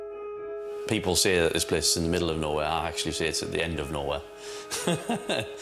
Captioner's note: laughs